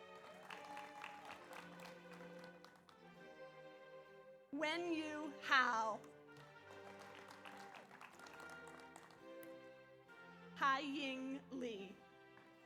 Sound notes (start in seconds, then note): 0.0 audience applauds; 0.2 audience cheers; 6.3 audience applauds; 6.9 audience cheers; 12.4 audience applauds